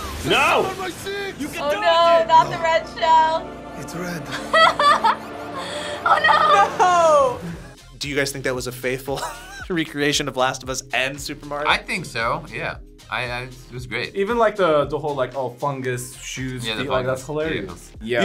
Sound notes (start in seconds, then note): 4.2 laughs